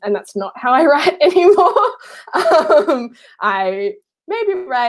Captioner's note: laughing